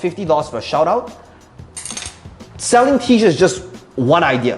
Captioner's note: dropping marker